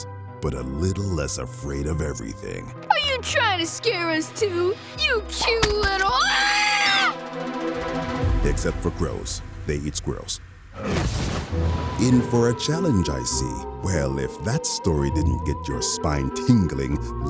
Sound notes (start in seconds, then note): 5.9 screaming